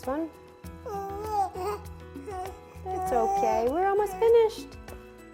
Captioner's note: baby noise